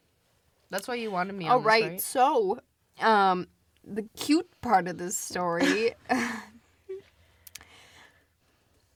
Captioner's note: both laugh